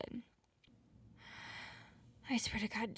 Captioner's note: deep breaths